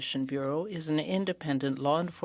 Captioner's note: speaking French